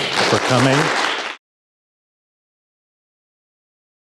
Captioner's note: audience applause